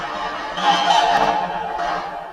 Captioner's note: cackle